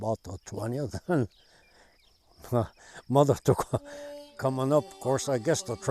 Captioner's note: laughs